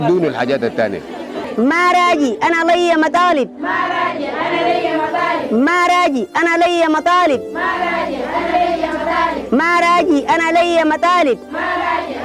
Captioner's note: women chanting